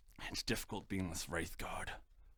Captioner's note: none